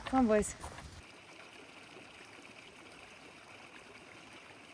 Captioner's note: creek babbling